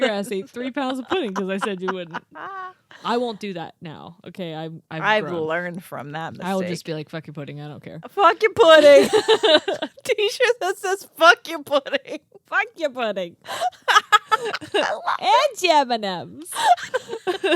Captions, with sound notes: You're ass ate three pounds of pudding, 'cause I said you wouldn't," I won't do that now. Okay, I've learned. - I've learned from that mistake. - I will just be like, "Fuck your pudding, I don't care." - Fuck your pudding! (girls giggling) A T-shirt that says fuck your pudding. - Fuck your pudding! - I love it. - And your M&Ms.